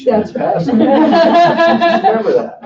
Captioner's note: laughing